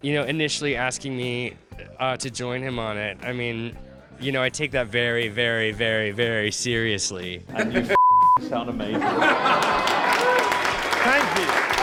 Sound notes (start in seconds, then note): 7.9 beep; 9.0 crowd cheering